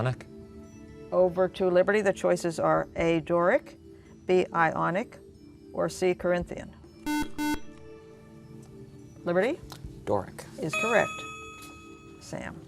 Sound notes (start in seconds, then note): 7.0 beeping